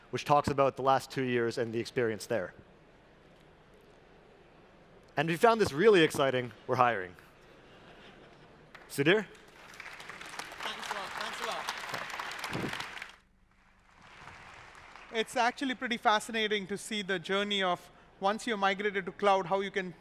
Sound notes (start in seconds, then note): 7.6 laughing; 8.6 applause